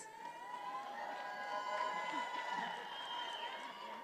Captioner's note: attendees cheering